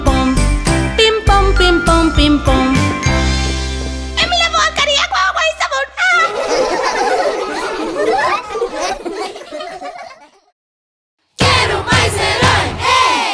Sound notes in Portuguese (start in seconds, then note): 9.3 Risos